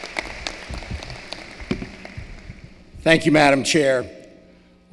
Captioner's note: applause